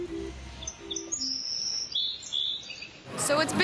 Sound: birds chirp

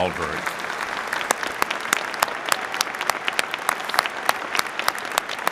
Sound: audience clapping

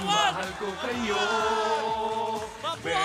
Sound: crowd

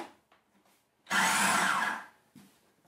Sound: mechanical whirring

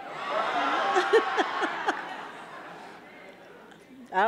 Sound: audience cheering; laughs

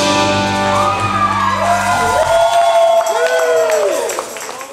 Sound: cheers and applause

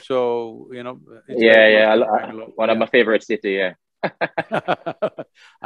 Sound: both laugh

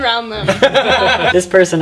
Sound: laughter

